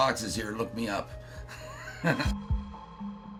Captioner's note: laughs